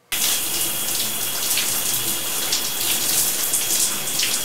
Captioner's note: water running